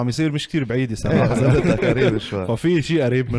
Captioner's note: laughs